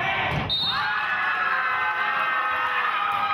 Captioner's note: whistling; cheering